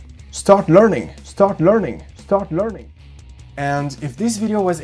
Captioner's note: echo